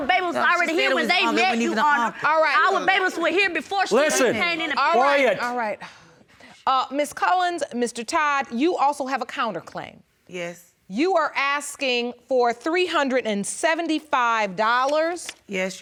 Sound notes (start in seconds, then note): 2.6 all shouting